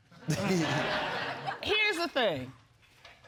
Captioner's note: laughter